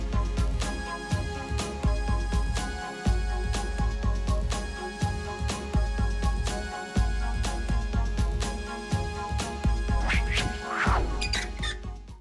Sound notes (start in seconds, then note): 0.1 warm electronic music; 9.9 whooshes; 11.0 creaks